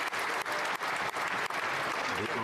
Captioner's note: applause